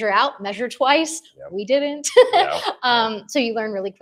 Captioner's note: laughs